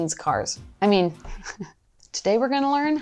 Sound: chuckles

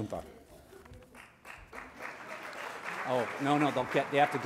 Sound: applause

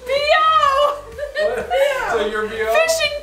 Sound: giggling

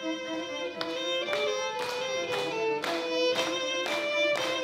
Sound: rhythmic applause

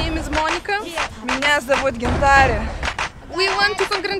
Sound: in strong russian

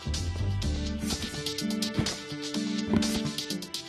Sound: none

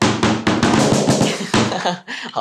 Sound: laughters

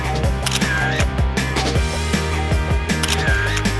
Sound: camera clicks

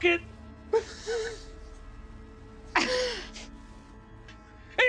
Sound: Ylfa laughs

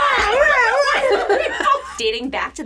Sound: both laugh

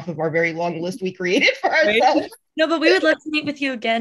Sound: laughs

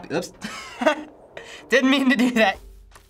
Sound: laughs

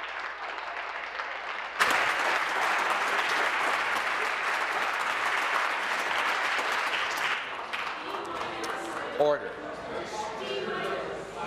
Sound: applause

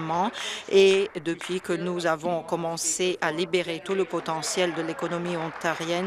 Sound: applause

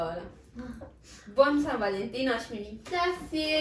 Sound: speaking in Italian

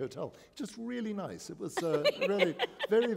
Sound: laughter

